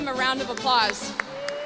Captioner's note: applause